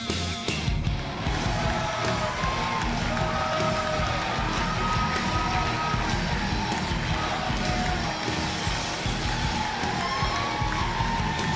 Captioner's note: crowd cheering